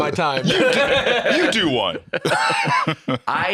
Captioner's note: laughs